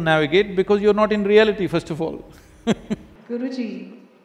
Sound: laughs

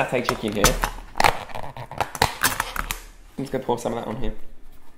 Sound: lids crackling

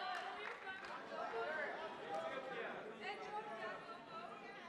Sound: attendees murmuring

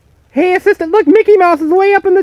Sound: voiceover

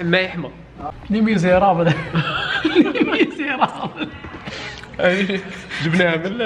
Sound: laughs

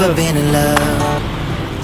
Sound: pop

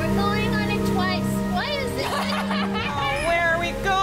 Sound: laughter

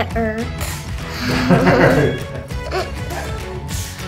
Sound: both laughs

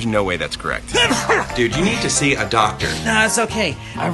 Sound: sneezes

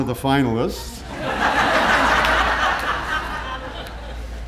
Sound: audience laughing

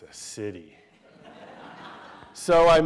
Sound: laughter

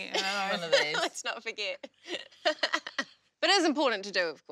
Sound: laughs

